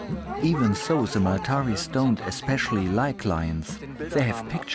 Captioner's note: in German